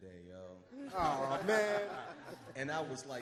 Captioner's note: all laugh